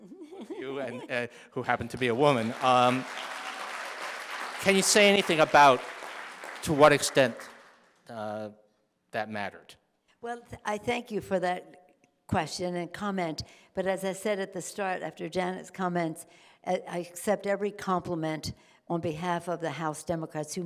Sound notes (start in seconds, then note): 1.6 audience applauding